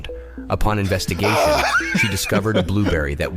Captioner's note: laughs